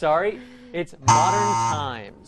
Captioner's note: buzzer